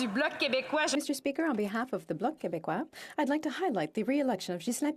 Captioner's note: speaking French